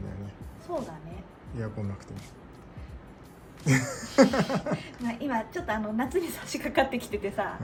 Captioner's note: laughs